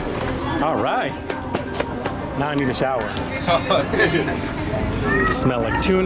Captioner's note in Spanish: Risas